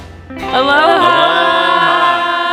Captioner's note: crowd